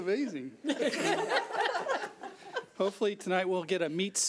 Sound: laughs

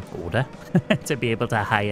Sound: laughs

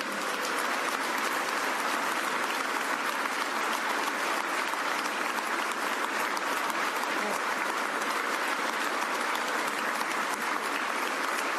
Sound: applause

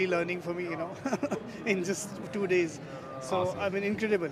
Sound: laughs

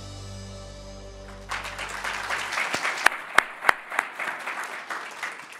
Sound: audience applauding

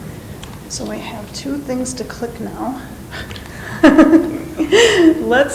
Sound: laughs

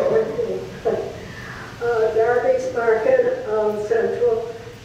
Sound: laughs

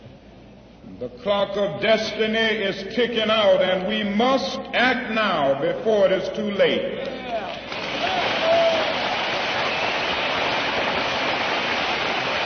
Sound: applause

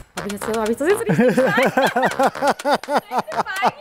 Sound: laughing

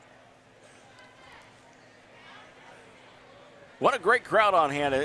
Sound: crowd cheering

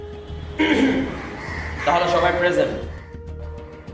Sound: cough!!!

